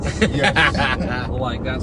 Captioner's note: laughing